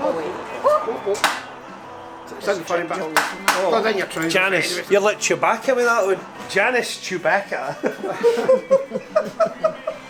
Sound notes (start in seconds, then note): 2.3 murmurs; 7.7 laughs